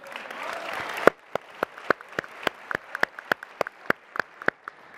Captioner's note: applause and cheering